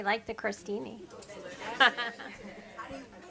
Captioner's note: people chatter; laughs